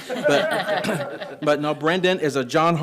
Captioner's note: group laughing